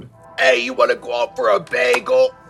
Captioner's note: new York accent; hand slapping